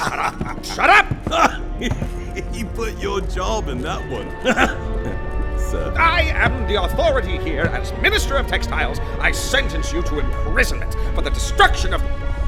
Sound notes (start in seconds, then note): 0.0 laughing; 4.6 deep Rumbling